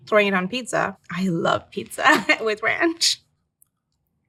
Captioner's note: chuckles